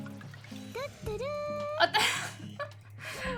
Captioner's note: laughs and giggles abound